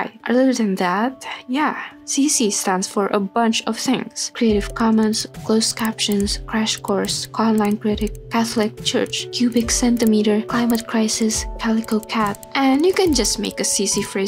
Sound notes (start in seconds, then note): 5.5 radial knob sound when it turns